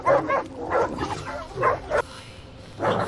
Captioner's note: barking